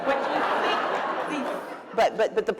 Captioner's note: laughter